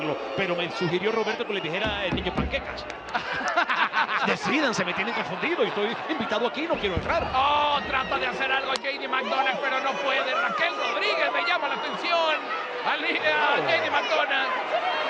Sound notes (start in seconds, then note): 2.8 laugh